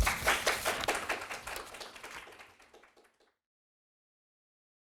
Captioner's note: audience clapping hands